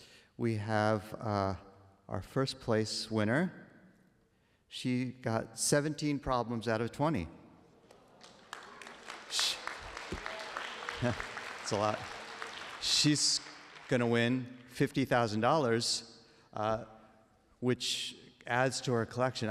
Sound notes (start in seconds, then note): 7.8 applause